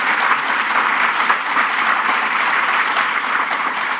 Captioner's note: applause